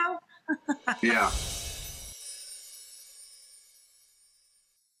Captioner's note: shouts and laughs